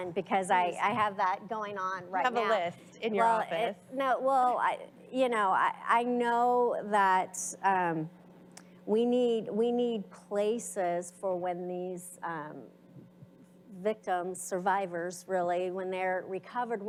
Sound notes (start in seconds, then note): 3.2 mumbling